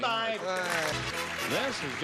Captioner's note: clapping